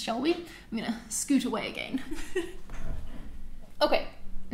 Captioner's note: laughs